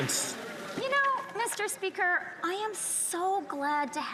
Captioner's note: some Applause